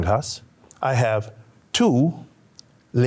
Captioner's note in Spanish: habla español